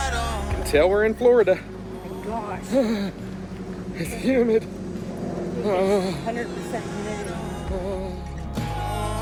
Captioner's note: repeatedly groans